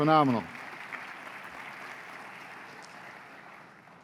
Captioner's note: applause